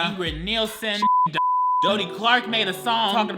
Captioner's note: beep